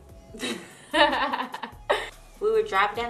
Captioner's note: laughs